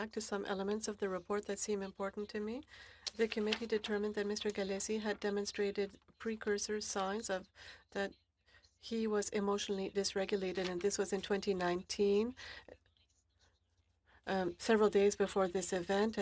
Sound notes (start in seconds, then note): 5.9 speaking French